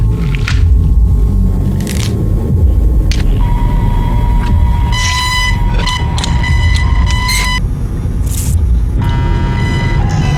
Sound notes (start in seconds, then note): 4.9 more static noises